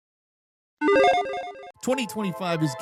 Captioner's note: logo beeping